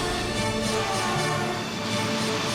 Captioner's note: jets zip away